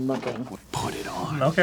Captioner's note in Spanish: usando su voz de papi